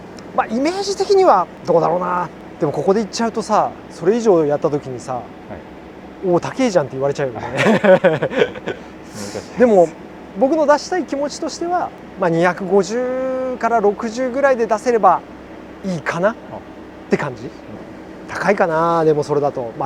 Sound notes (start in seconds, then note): 7.4 laughs